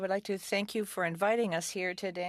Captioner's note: speaking French